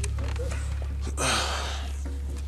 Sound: Jon sighs

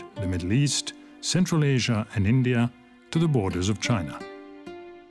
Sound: speaks French

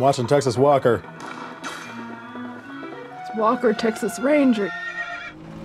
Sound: car engine; distant sirens

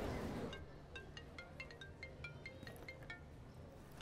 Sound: phone ringing

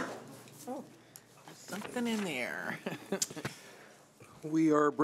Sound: chuckling

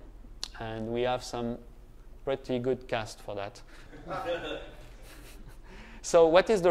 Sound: laughter

